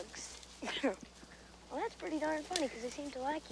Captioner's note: laughs